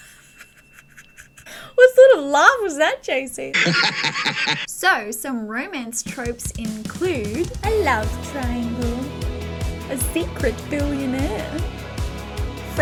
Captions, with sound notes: What sort of laugh was that, JC? *creepy laugh* So, some romance tropes include: A love triangle. A secret billionaire.